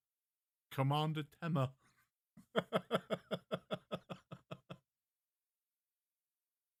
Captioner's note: laughs